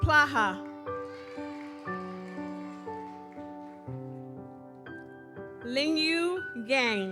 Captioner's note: gentle music continues; audience cheers